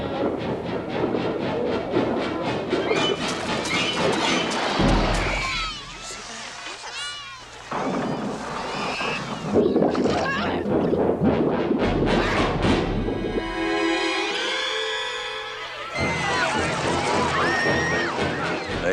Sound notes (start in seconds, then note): 7.8 screams; 10.6 thunder